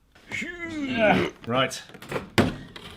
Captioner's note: exhaling heavily